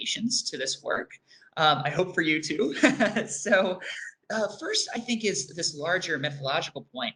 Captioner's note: laughs